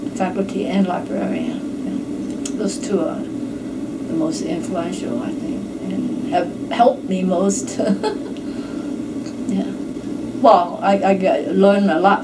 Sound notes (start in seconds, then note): 7.8 giggles